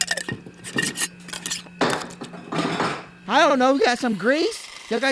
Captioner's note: banging and clanging